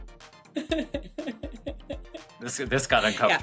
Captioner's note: laughing